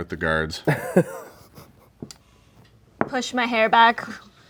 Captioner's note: chuckling